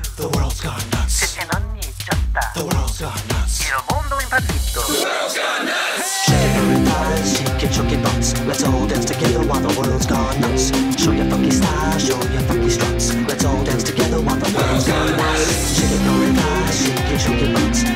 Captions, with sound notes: The world's gone nutz Sesang-eun michyeossda (Korean) The world's gone nutz! Il mondo è impazzito (Italian) The world's gone nutz! (crowd) Shake your furry thighs, shake your chunky butts... Let's all dance together while the world's gone nutz. Show your funky style, show your funky struts. Let's all dance together while the world's gone nutz. Shake your furry thighs, shake your chunky butts